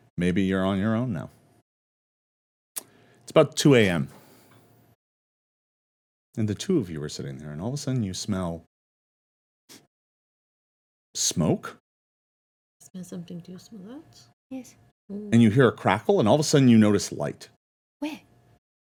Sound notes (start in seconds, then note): 10.4 sniffs